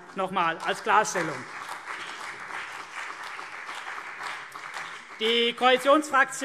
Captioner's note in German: Vereinzelter Beifall CDU und BÜNDNIS 90/DIE GRÜNEN